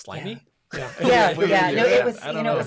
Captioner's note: laughs